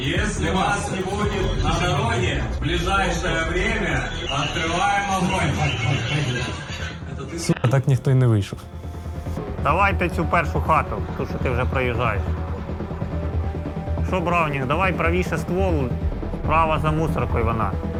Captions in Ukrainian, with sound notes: Якщо ви не вийдете на дорогу найближчим часом, ми відкриваємо вогонь. [сміх] С*ка, так ніхто і не вийшов. Давайте цю першу хату, ту, що ти вже проїжджаєш. Що браунінг? Давай правіше ствол. Справа за смітником вона.